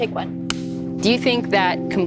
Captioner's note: clapper claps